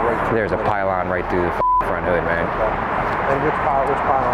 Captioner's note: beep